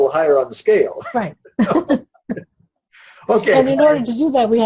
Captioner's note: laughs